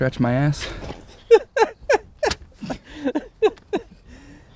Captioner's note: chuckling